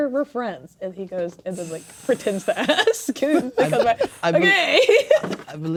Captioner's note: laughing